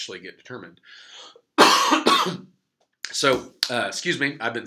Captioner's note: coughs